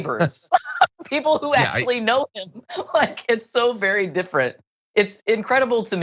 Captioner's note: laugh